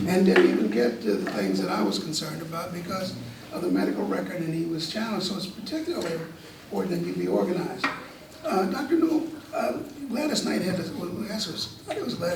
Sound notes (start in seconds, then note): none